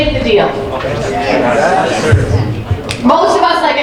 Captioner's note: audience agreeing